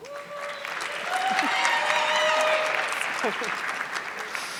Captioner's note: audience clapping